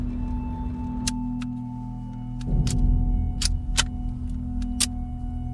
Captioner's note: dramatic orchestral music continues; gun clicking